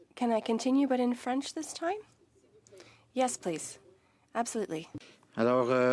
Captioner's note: speaking French